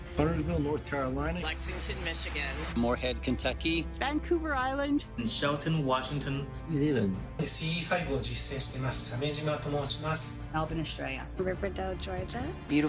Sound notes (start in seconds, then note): 7.7 hovoří cizím jazykem